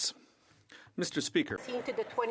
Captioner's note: applause